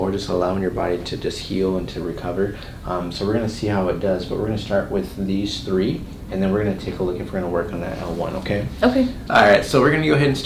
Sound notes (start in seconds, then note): none